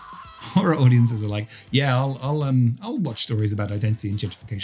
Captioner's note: screaming